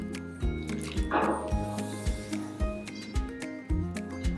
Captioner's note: effervescent sound